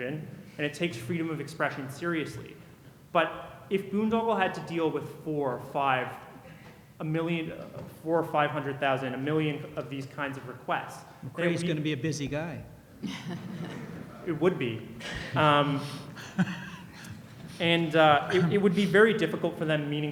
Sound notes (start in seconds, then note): 11.4 voiceover